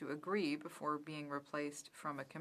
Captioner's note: speaking french